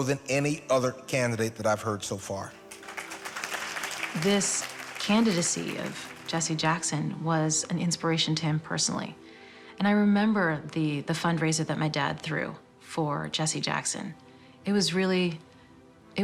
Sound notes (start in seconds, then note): 2.5 applause